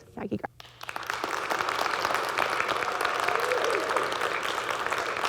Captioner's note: audience clapping